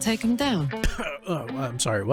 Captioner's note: cough